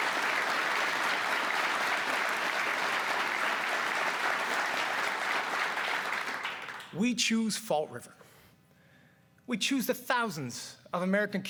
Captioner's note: cheers and applause